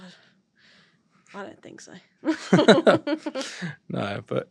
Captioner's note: laughter